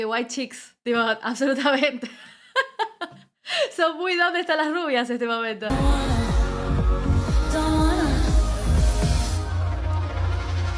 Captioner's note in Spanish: risas